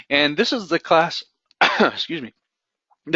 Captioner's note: coughs